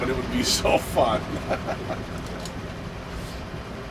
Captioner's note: laughs